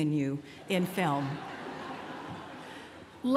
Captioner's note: laughter